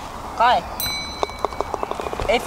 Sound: bell dings

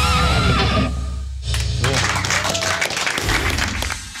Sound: applause

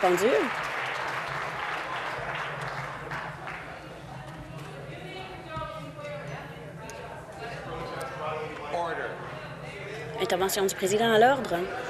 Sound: applause

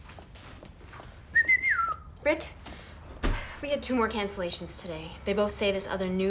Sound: whistles

